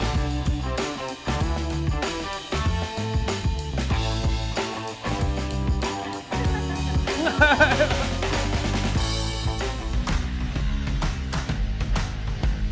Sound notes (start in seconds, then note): 6.1 laughs; 10.2 rock music